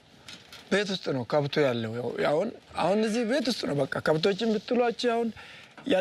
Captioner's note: speaking foreign language